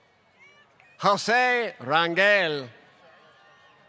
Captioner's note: applause